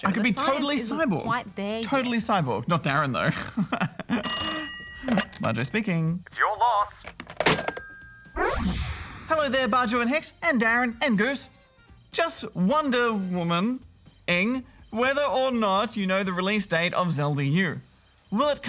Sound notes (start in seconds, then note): 2.7 snorts, laughs; 4.2 phone rings